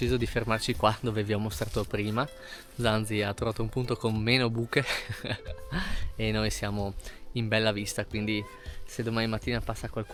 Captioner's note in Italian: risate